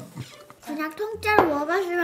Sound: confused

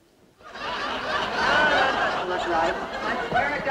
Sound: audience laughing

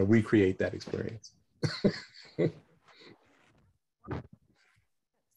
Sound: laughter

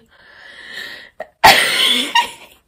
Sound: laughing

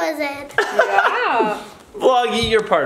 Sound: laughs

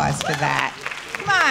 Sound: audience applauds

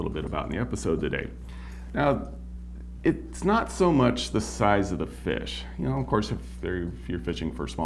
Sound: none

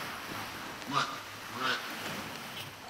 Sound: squawks

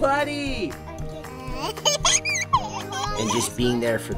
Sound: giggling

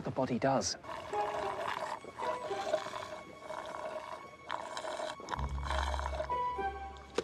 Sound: sipping noises

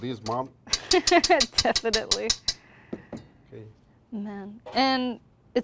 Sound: laughs

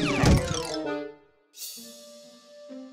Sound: thump

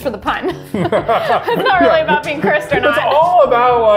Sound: both laughing

